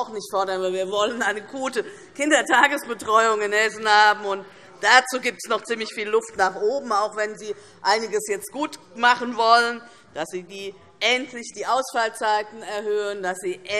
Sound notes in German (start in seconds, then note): none